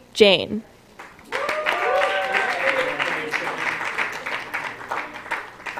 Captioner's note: applause